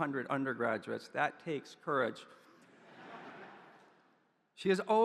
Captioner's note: audience chuckles